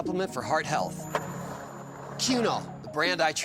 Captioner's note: skateboard wheels roaring